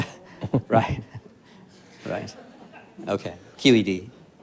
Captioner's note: audience laughs